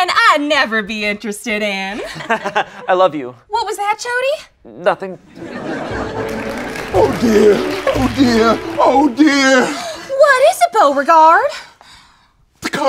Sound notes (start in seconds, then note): 5.3 audience laughs